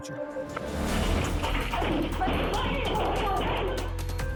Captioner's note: indistinct shouting